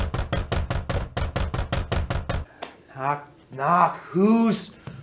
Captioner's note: more knocking within